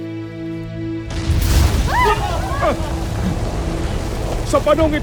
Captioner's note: powerful blast nearby; rumbles, squeals & gasps